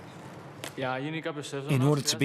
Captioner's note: speaking in foreign language